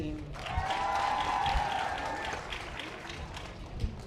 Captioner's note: audience applause